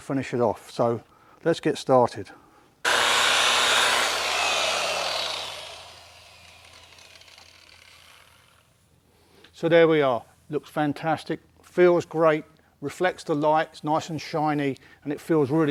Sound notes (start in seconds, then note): 2.8 machine sound